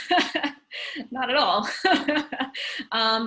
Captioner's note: laughing